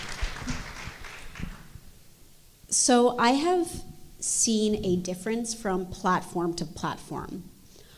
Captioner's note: applause